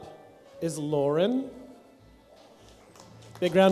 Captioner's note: light applause